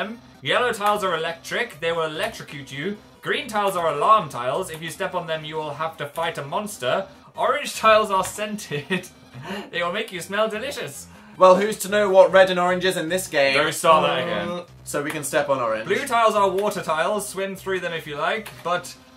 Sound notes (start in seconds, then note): 8.6 chuckles; 11.2 sarcastic; 13.6 annoyed noise